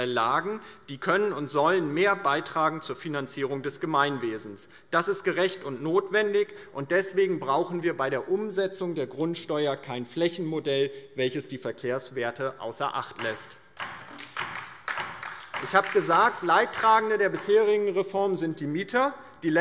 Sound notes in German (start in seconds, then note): 13.7 Beifall DIE LINKE